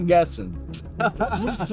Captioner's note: laughter